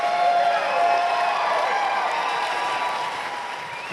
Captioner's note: cheering, applause